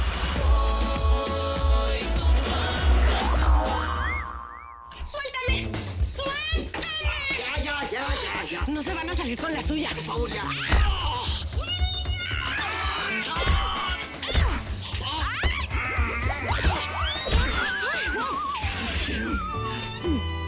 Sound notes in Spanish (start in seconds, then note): 11.6 Grito de ella al morderlo; 14.3 Golpes; 15.1 Gritos